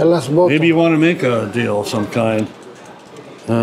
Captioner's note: none